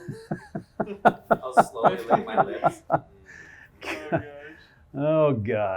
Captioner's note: laughs